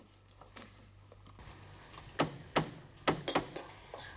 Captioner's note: knocking on door; sighing